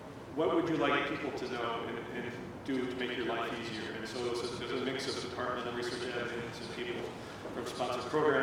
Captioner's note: none